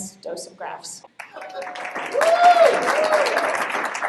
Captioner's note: applause